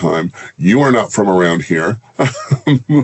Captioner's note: laughs